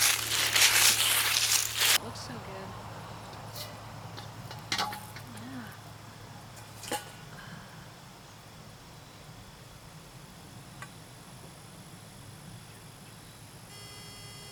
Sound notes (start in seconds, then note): 0.0 sound of walking on dry leaves; 9.4 bird and other nature sounds